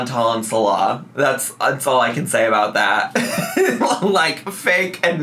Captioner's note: laughs